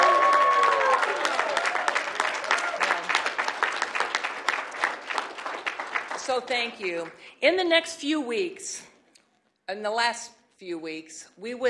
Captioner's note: applause